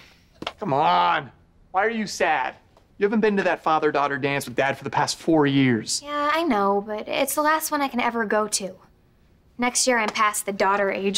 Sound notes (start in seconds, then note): none